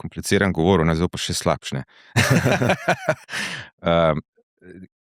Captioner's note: laughter